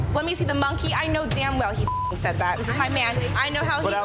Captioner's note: beep